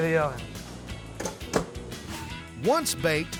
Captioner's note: oven door closes